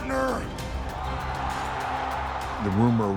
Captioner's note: crowd cheering